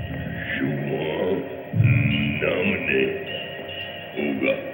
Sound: gibberish grunting

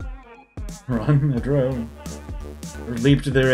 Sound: laughing

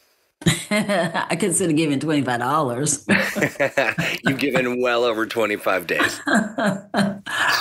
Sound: laughs

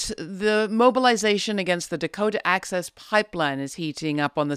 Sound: none

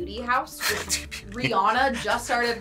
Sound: chuckles

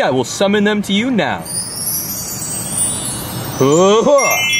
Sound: stars chiming

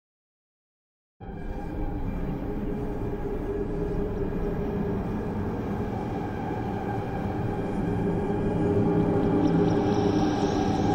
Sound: sound of dark horror forest

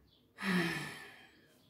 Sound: sigh

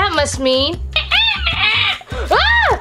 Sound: bat Squealing

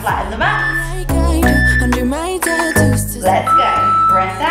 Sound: workout timer beeping

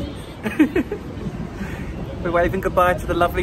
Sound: chuckles

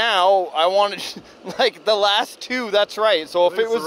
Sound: chuckles

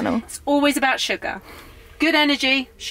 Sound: none

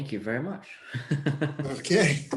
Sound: laughing

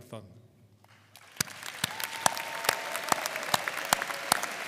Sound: audience applauding

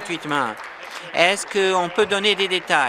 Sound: applause

